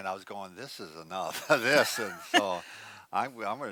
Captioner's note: both laughs